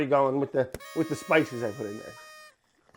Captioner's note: party horn